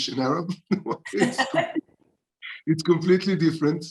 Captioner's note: both laughing